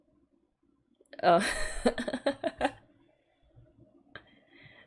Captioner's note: laughs